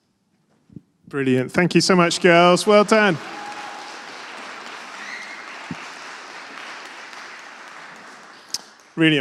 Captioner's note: applause